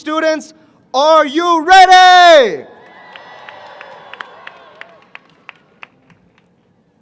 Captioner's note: cheering